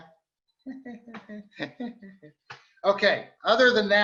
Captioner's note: laughing